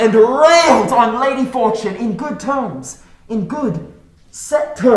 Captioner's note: none